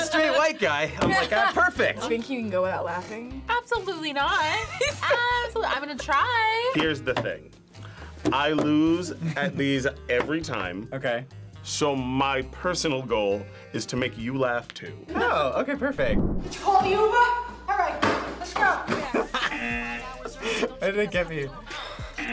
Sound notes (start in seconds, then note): 19.3 buzzer rings; 20.0 laughs; 22.0 buzzer rings